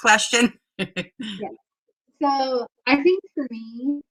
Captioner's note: laughter